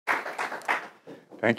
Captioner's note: applause